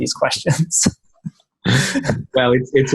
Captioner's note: laughing